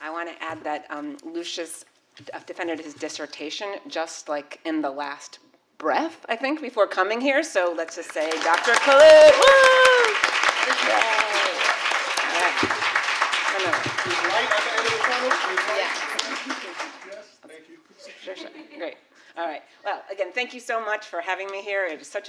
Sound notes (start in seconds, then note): 10.2 applause; 18.6 laughs